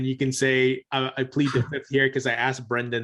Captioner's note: chuckles